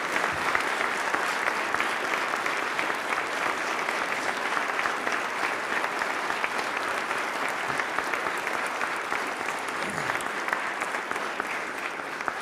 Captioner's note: applause